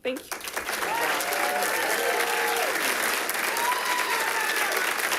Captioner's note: audience applauding